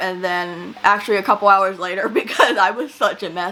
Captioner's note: laughs